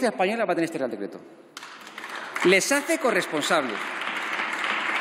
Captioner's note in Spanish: Aplausos